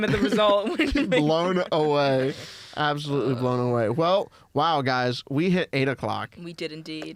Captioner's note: laughs